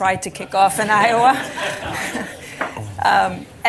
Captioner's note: laughter